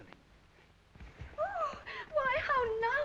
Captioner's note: Celia gasps